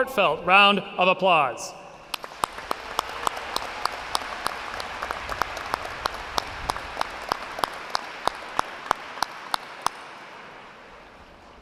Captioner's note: applause